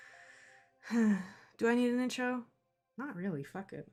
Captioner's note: sigh